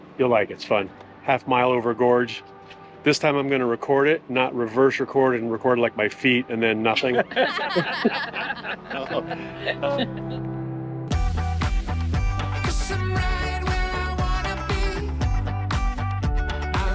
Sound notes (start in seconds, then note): 7.0 all laughing; 11.2 bright music